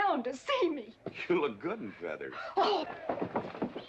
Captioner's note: pouting loudly